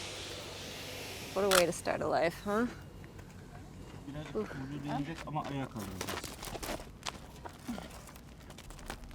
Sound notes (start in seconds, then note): 1.4 camera clicking; 4.3 speaking in foreign language